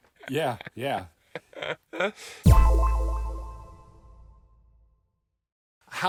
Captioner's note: sharp tone echoing